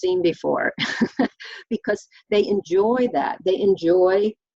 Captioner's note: laughs